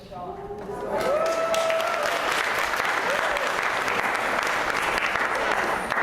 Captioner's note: applause